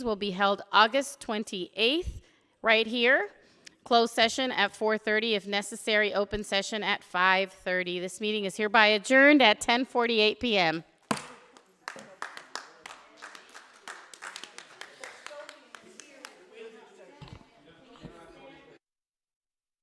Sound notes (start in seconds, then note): 11.5 audience applauding; 15.3 people murmuring quietly